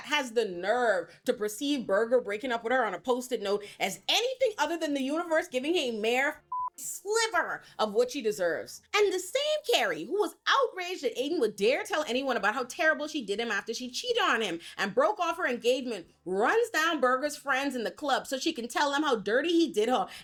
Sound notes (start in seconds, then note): 6.4 beep